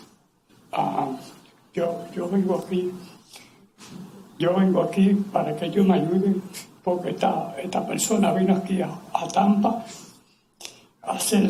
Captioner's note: spanish